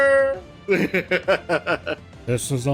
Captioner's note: laughter